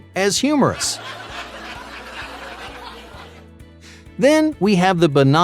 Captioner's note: crowd laughter